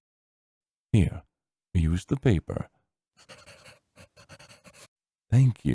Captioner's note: pencil scribbling